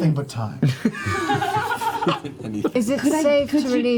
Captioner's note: laughter